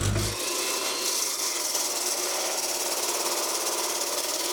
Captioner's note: chainsaw screeching